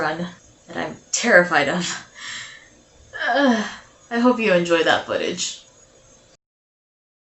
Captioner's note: groan